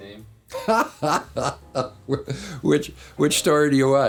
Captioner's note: laughs